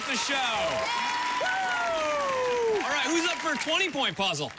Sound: cheers

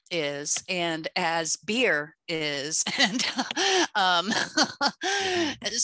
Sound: laughs

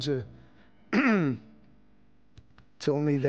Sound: clears throat

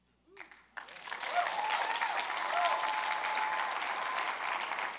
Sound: crowd applauds

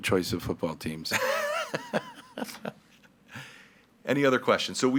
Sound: laughing

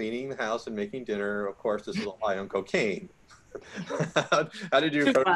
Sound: laughs

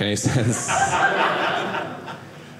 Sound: audience laughing

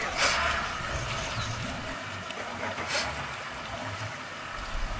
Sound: boat engine starting

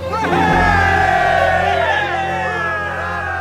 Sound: cheers

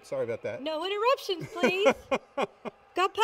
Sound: laughs

